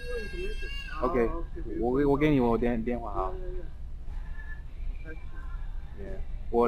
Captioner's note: mandarin